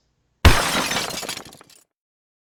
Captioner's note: glass breaking